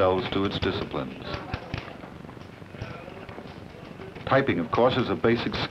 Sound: typewriter clacking

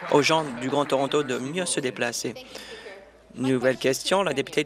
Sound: applause

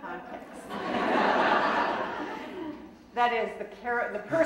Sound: audience laughing

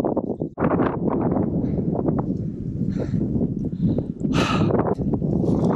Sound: wind; breath

